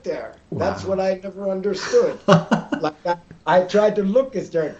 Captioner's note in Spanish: riendo